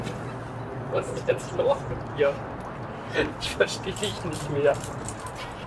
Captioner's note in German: lacht